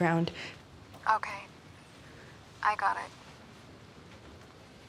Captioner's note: on phone